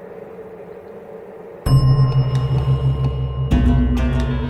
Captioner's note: bell dinging; gentle Chinese music